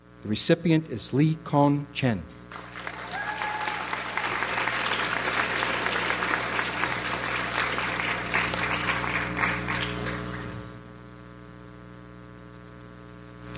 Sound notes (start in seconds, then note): 2.5 audience applauds